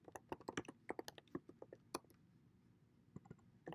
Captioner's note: typing